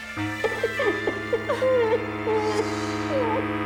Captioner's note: robber cries